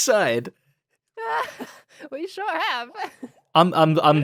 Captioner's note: laughs